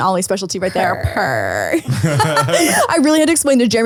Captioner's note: purring